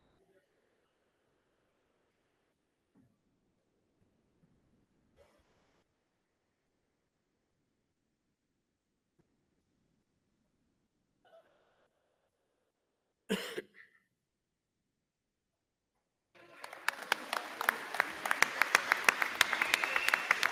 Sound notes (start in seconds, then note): 13.3 person coughs; 16.3 crowd clapping